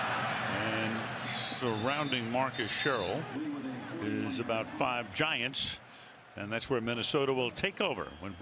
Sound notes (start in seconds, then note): 4.4 pa announcement